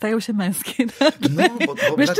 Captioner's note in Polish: śmiech